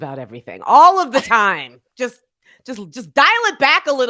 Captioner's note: chuckling